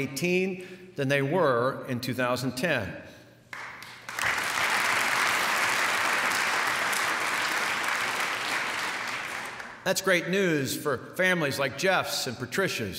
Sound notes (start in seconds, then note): 3.5 applause